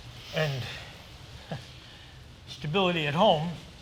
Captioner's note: laughs